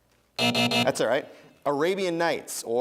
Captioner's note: buzzing